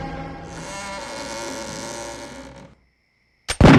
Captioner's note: door creaking; gun shot